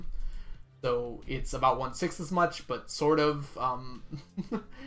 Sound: laughs

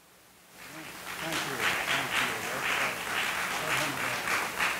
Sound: audience applauding

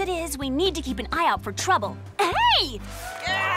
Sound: crowd cheering

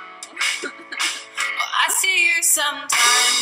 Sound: giggles!!!

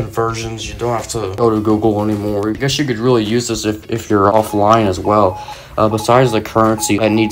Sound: morse Code Sound Effect

